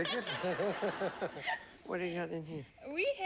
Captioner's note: audience laughing